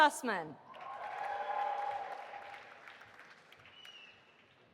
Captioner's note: audience applauding